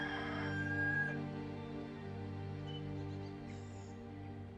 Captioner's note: cockerel calls; gentle music